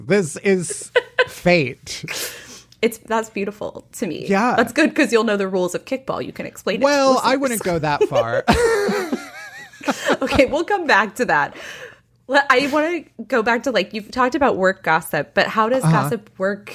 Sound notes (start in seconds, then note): 7.7 laughs